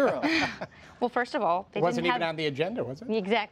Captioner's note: laughter